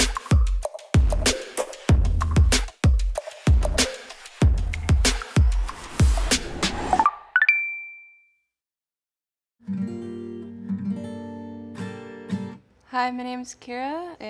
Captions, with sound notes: (ascending beeping) (guitar strumming) - Hi, my name's Kira